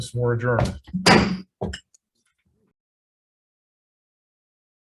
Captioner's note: gavel bangs